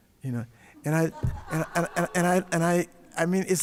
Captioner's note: laughter